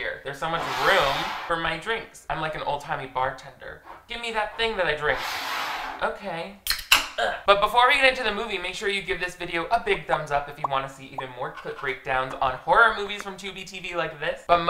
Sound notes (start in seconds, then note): 5.4 cup sliding; 6.4 bottle whizzing